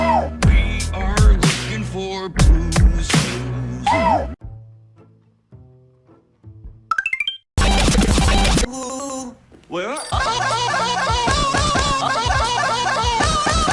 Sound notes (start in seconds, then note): 0.0 drums kick in; 6.9 Mario 1-up sound effect